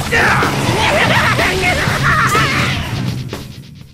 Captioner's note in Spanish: Se Ríe